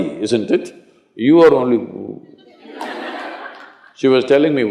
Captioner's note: laughter